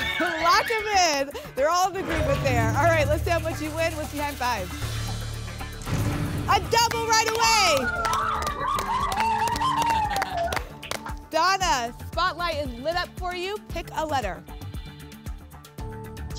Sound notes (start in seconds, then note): 8.1 applause and cheering; 9.8 laughs